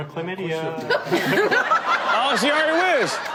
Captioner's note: all laugh